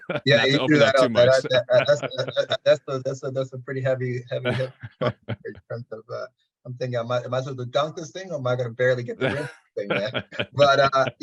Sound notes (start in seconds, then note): 1.9 chuckling; 4.4 audio distortion; 9.3 audio distortion